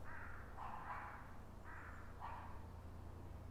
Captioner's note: crow calling